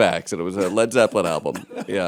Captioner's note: laughter